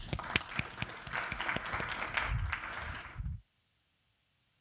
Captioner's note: audience applauds